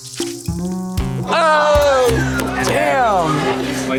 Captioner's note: everyone exclaiming in disgust